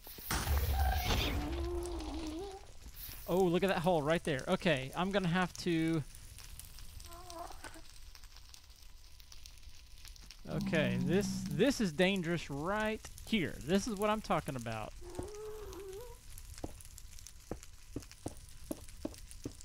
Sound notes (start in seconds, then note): 6.6 pigman grunts; 7.4 crackling fire; 13.1 ghast squalls; 15.1 crackling fire